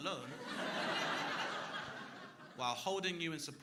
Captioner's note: crowd laughing